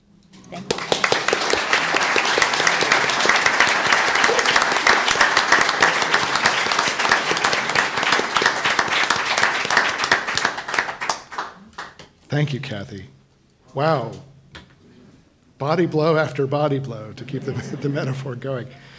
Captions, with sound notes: Thank you. (panel and audience applauds) - Thank you, Kathy. Wow. Body blow after body blow to keep the metaphor going.